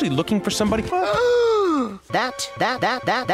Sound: gasps

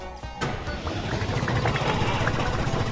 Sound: jump sound; engine noise

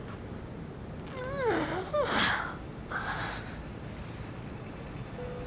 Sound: pained groaning

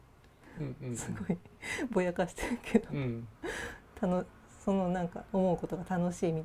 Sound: laugh

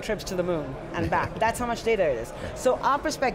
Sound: John Furrier chuckling

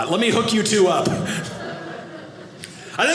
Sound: audience laughing

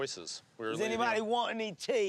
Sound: British accent

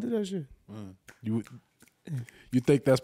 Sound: snaps fingers

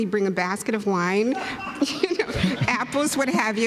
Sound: laughter

